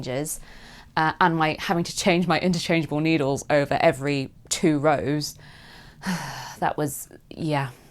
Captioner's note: sighs